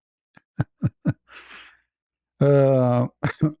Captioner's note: ketawa